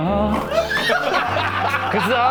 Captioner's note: passionate humming